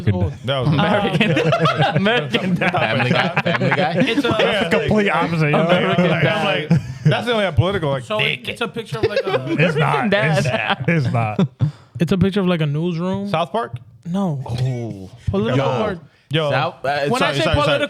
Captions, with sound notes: American, no. American. (Laughing) Family guy, family guy. (Mumbling) That's the only way I'm political, like dick. It's a picture of like a-- It's not, it's not. It's a picture of like a newsroom? South Park? No. Ooh. Political or-- South, South, South. When I say political